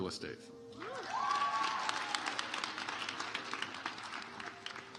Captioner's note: audience applauds